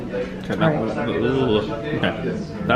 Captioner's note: winces